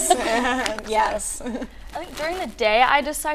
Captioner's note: laughing